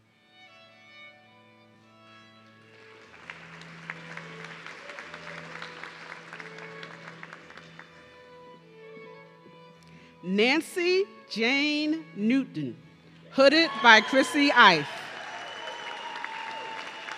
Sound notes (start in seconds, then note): 4.2 audience clapping; 13.5 audience cheering